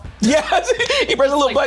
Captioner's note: laughs